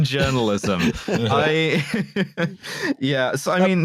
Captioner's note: laughter